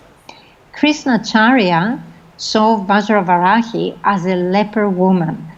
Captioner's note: foreign language